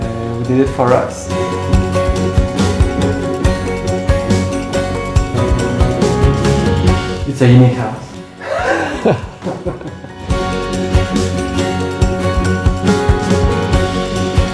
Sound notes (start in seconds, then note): 1.7 bright music; 8.4 both laugh; 10.8 bright music